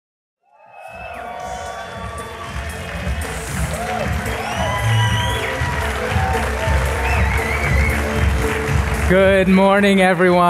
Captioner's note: applause